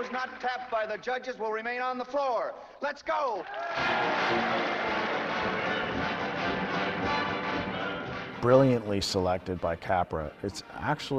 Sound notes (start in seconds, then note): 3.4 dancers cheering; 3.7 upbeat music